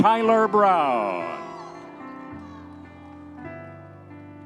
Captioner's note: audience members cheering; gentle piano music continues